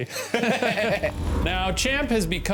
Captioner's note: both laugh